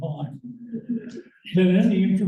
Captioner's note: laughter